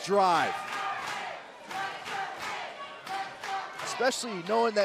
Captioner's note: crowd cheering